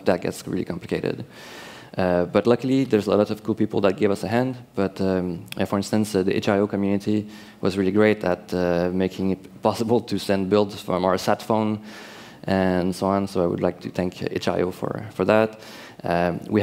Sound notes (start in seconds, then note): none